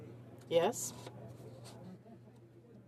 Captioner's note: speaking French